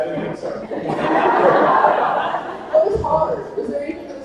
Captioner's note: attendees laughing